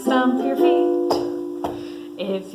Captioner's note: hands clapping